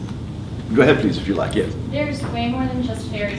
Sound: laugh

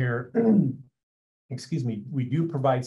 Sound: clears throat

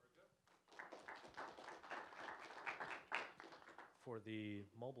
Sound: applause

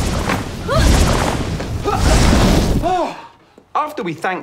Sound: gasping

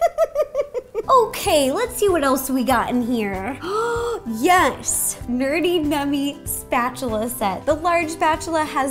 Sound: giggles; gasp

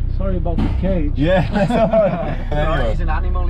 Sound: laughing

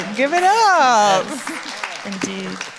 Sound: audience applauds

